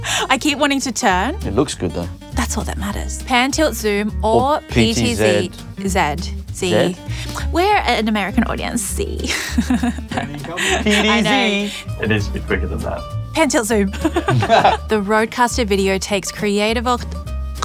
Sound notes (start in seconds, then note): 9.2 laughs; 13.9 laughs